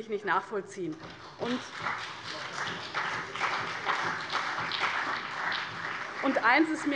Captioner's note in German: Beifall CDU und BÜNDNIS 90/DIE GRÜNEN